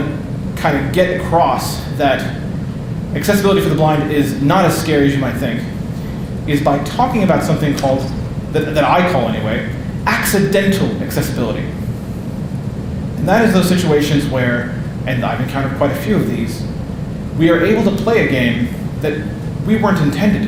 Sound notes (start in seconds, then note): none